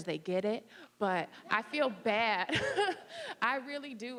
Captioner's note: laughing